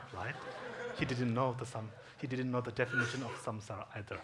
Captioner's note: audience laughs